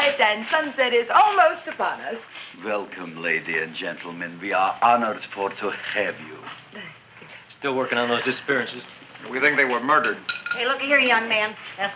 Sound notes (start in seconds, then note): none